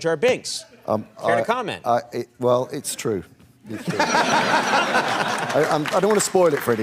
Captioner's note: laughter and light applause